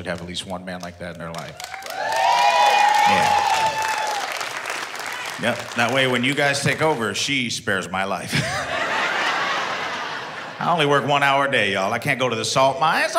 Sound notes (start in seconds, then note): 1.5 audience woos